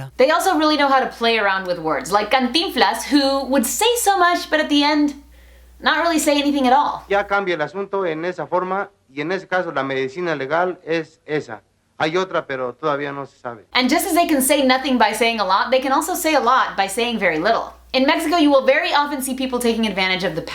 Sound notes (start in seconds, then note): 7.3 speaking Spanish